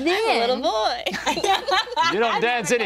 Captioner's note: group laughing